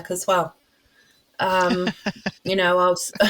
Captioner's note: laughs